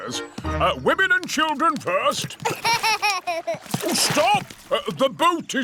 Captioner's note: laughs